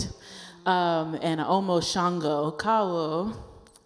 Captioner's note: speaking in foreign language